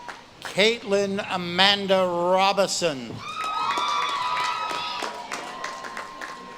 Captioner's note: audience claps and cheers